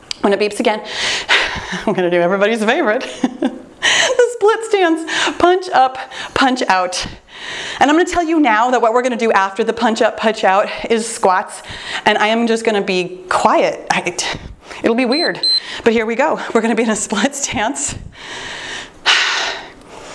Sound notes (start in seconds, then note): 3.6 laughing; 15.0 timer beeps